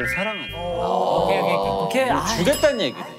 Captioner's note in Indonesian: Bersorak